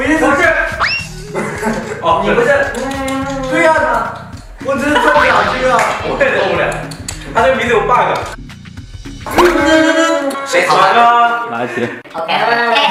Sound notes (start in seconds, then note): 4.8 laughing madly